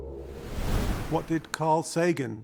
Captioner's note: wind whooshing